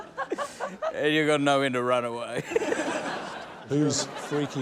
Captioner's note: chuckles; chuckles